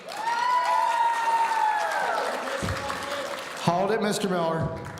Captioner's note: audience cheering